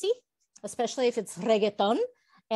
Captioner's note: Spanish